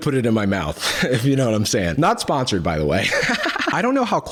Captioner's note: laughs